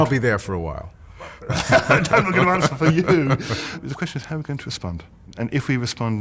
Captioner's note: laughter